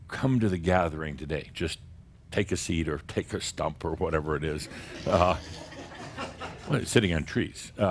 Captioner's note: some chuckles